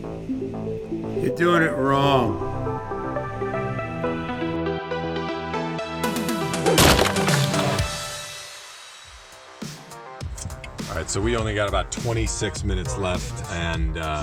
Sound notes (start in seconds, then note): 0.2 suspenseful electronic music; 5.3 80s electronic music; 6.6 snapping wood